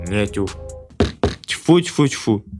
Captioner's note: knock